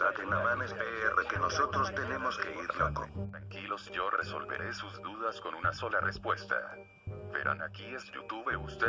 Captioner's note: BENGTUBYS complaining